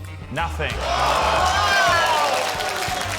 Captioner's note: applause